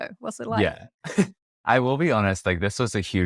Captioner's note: laughs